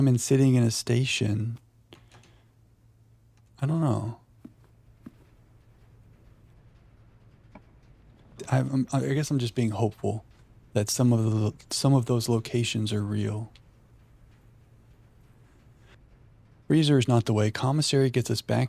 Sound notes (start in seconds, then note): 14.4 wind howling